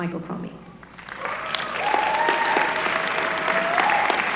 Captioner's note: applause